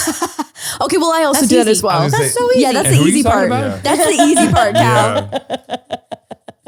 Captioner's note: laughing